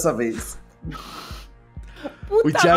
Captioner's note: laughter